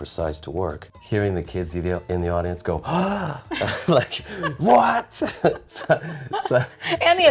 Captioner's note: gasps